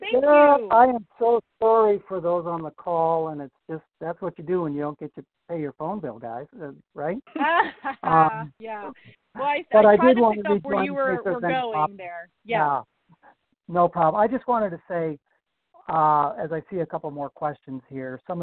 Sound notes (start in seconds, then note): 7.4 laughs; 9.3 murmurs